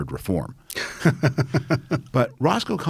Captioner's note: laughing